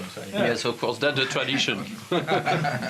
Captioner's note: laughs